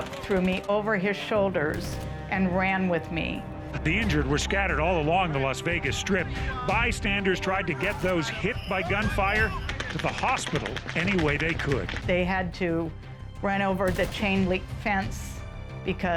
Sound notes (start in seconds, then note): 11.7 gunfire